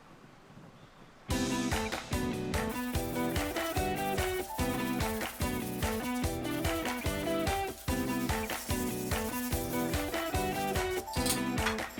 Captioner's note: working sound